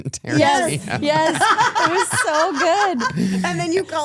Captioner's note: laughs